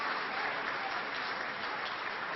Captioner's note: applause